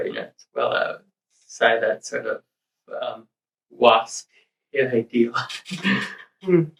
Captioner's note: chuckles